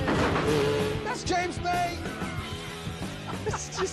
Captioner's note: laughs